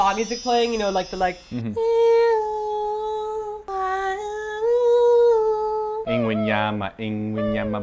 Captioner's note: imitates soothing spa music